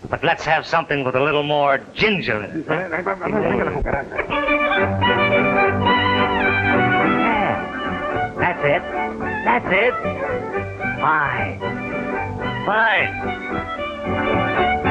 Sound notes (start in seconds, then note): 3.6 speaking in Spanish; 5.5 band playing